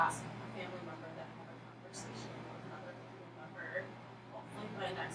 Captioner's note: speaking softly